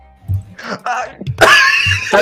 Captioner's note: strangled Kakapo sounds; laughter